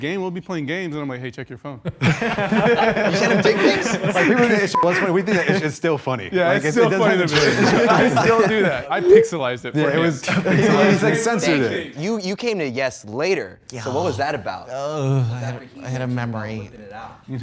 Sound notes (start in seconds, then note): 1.9 contestants laughing; 4.7 beep